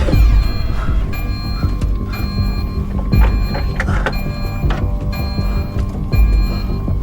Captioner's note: alarm blaring; suspenseful music